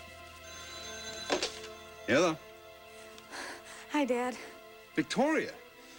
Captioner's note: phone rings